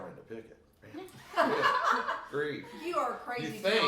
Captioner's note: all laugh